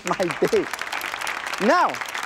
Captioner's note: applause